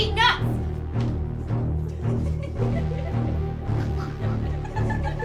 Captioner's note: both laughing